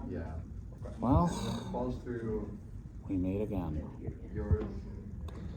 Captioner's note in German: gedämpfte Stimme